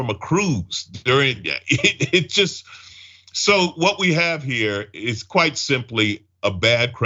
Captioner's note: laugh